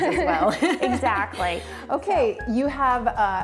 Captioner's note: both laugh